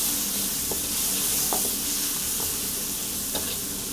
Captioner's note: pork sizzles